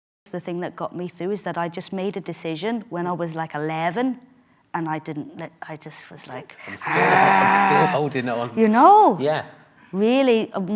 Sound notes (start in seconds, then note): 6.6 growls